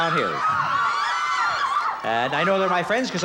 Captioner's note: cheering and applause